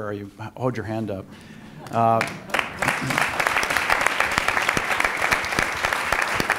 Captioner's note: applause